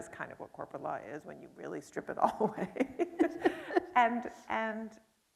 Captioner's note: laughs